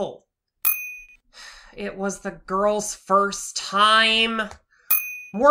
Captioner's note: sigh